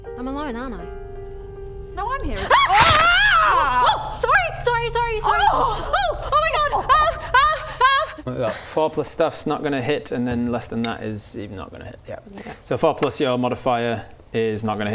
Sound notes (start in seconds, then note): 2.4 stab; 6.9 screaming